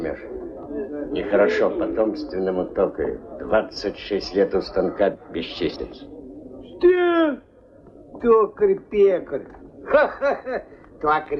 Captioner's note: laughs and mocks him